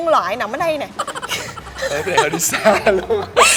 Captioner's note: laugh